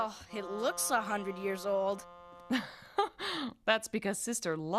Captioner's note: chuckles